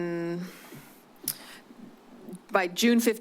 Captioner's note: click tongue